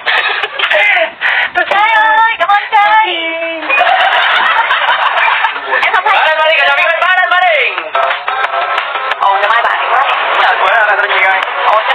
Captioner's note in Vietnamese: Vỗ tay